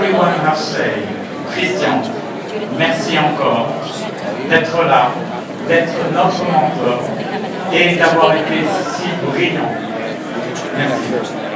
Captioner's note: French